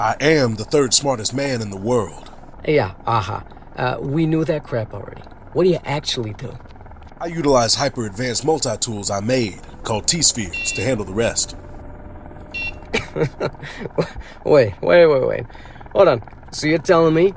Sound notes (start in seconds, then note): 12.8 stifling a laugh